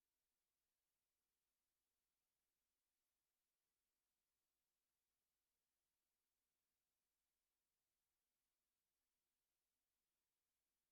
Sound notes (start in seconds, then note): none